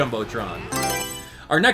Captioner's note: Mario Selection Sound